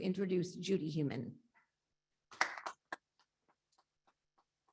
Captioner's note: audience appluades